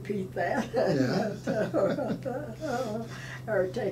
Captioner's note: laughing